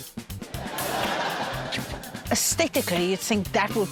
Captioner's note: laughter